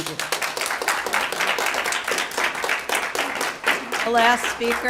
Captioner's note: applause